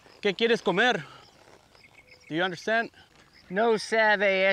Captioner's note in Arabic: يتحدث الإسبانية